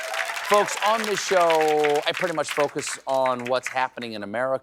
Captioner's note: applause